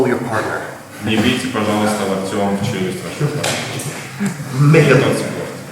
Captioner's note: speaking in a foreign language